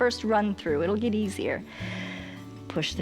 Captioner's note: inhales